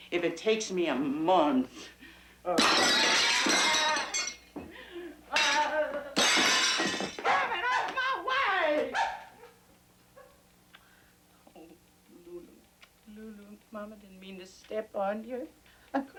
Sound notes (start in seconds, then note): 2.6 plates shattering; 8.8 dog barking